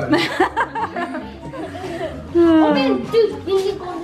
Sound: laughs

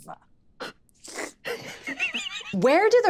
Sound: Squing squelches

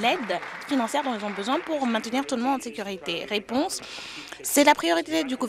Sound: applause

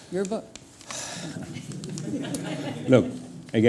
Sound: laughter

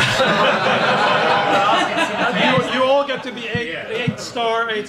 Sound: audience laughs

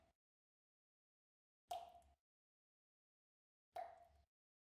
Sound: water dripping

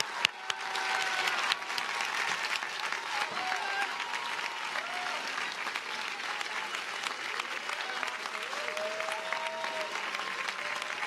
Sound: cheers and applause

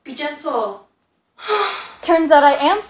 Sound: sigh

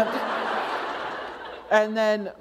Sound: laughter

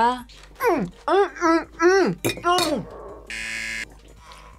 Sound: buzzer

